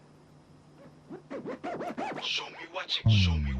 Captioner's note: record scratching